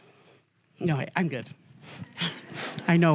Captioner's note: laughter